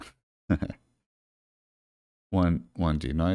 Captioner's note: chuckles